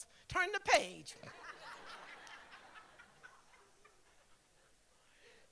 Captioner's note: laughter; laughter